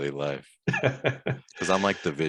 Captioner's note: laughing